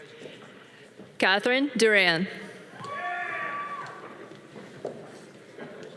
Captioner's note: audience cheering